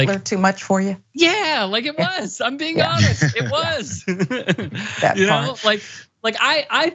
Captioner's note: laugh